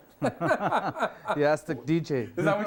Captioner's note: both men laugh